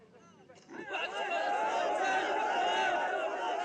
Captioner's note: cheering